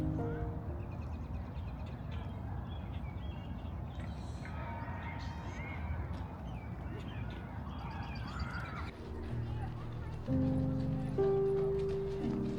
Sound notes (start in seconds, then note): 2.4 birds singing; 8.9 soft piano music